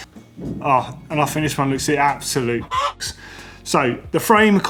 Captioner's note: cluck